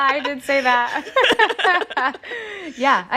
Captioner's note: laughter